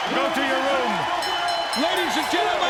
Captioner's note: bell dinging